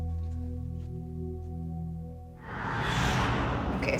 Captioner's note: swooshing